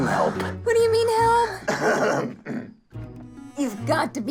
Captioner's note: clears throat